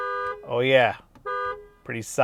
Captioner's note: horn honking